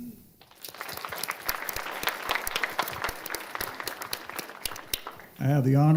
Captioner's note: applause